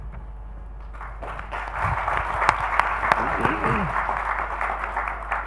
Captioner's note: audience claps